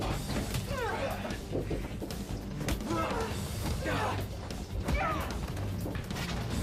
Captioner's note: dramatic music; people groaning; blows thudding